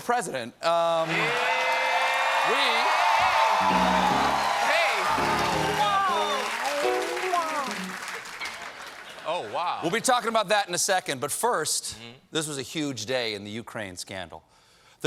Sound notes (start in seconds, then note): 1.0 cheers and applause